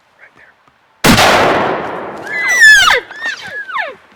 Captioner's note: gunshot